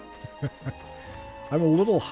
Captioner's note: laughs